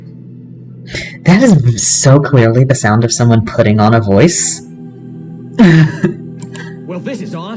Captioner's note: laughter